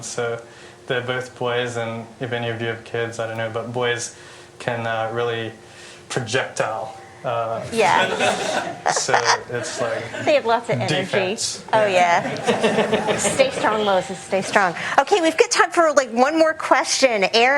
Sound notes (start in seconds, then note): 7.6 laughter